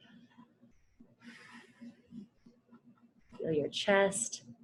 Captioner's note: exhales